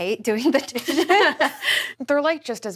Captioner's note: laughs